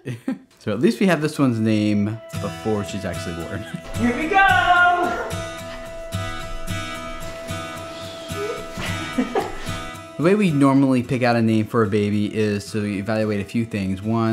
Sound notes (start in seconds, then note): 0.0 both laughing; 7.8 giggling